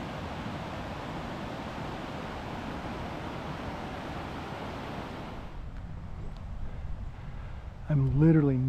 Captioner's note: sound of rushing water in creek